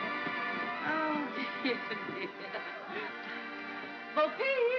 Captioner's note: laughs